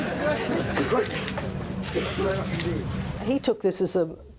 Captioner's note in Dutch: camera sluiters klikken